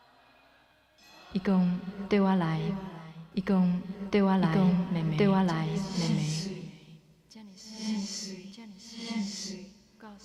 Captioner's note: speaking Taiwanese